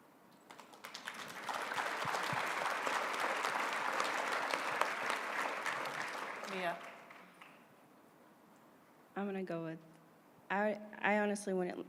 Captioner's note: applause